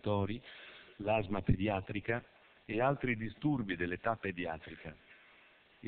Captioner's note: Italian